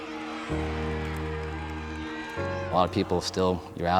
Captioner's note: cheering